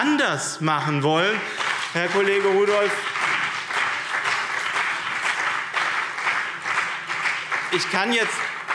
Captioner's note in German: Beifall BÜNDNIS 90/DIE GRÜNEN und CDU